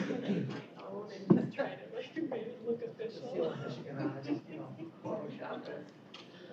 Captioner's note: indistinct chatter